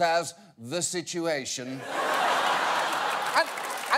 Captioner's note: audience laughs